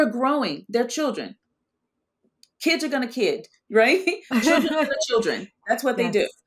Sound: both laughing

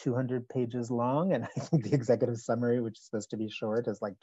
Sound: chuckles

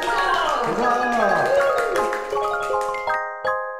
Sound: twinkling music; clapping

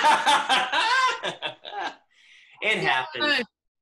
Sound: laughs

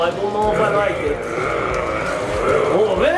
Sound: mummy growling

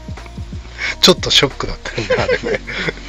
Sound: laughs

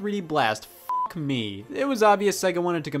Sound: beep

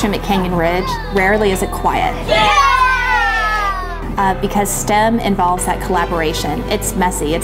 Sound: cheering children

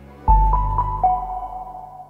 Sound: logo dinging

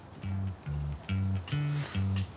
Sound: air horn honks

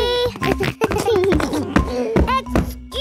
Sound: giggles

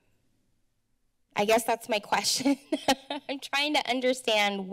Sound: laughter

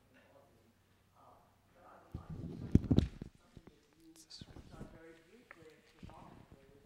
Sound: whispering

